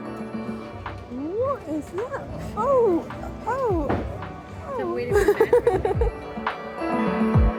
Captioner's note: laughing; chill music